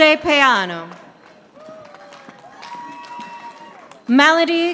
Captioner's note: audience applauding